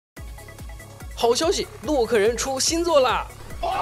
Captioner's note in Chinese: 歡呼